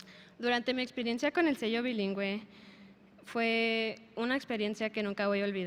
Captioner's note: speaker speaking in a foreign language